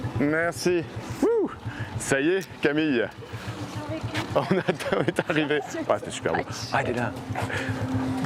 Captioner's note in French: rires